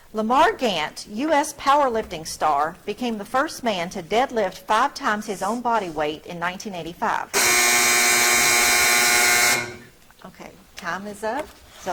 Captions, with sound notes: Lamar Gant, US powerlifting star, became the first man to deadlift five times his own body weight in 1985. (buzzer blares) Okay, time is up.